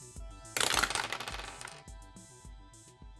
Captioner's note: dice rolls